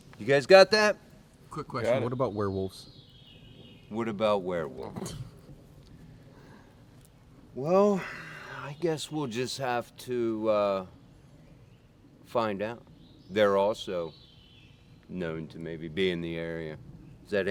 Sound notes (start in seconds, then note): 5.9 riendo entre dientes